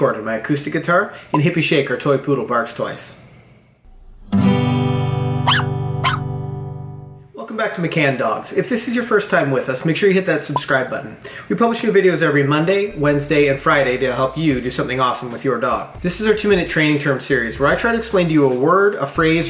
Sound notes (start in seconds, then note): 4.0 guitar strums; 5.4 dog barks